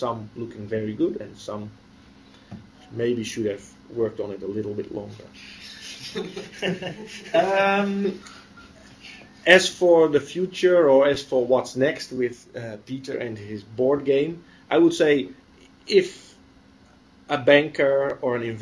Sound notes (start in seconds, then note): 7.8 laughter